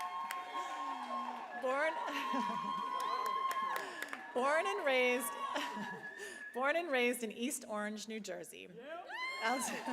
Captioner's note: applause; cheering